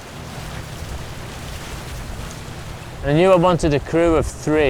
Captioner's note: water splashing